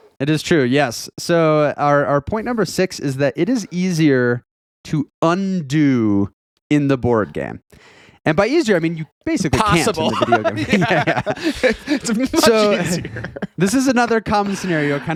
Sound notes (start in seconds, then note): 9.5 laughing